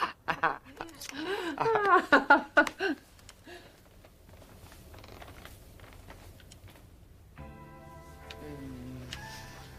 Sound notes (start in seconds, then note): 1.2 both laughing; 7.3 smooth music